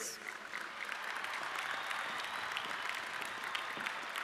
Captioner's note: audience clapping